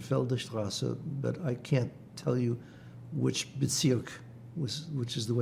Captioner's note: german